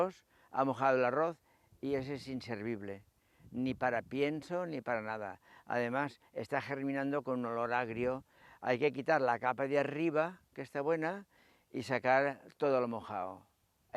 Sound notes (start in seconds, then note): 1.0 Spanish